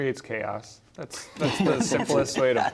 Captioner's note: laughter